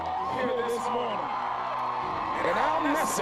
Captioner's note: cheering